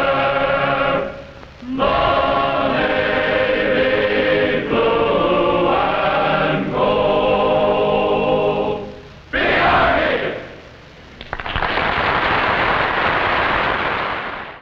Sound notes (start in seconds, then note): 11.2 audience applauding